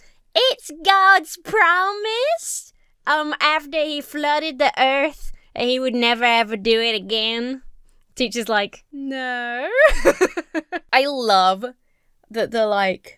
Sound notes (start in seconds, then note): 9.8 Emma laughs